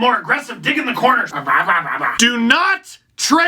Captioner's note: makes dog-like noises